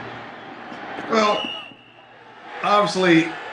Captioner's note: whistle blows